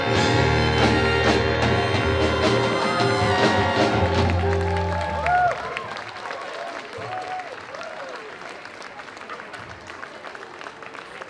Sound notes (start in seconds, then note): 0.0 big dramatic drum roll crescendo; 3.9 applause